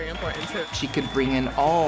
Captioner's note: cheering